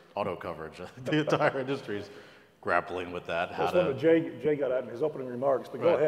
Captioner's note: laugh